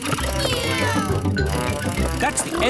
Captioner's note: kids imitating vehicle sounds